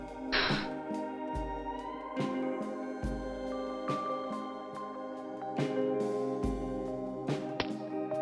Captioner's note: laughing